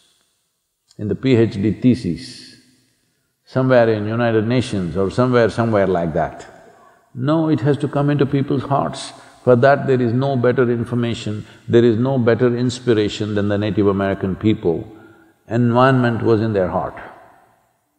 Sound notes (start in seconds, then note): none